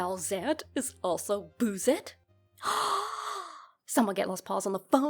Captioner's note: gasp